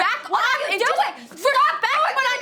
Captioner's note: Ashley shouting